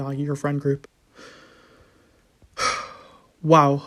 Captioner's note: long sigh